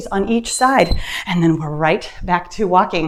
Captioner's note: timer beeps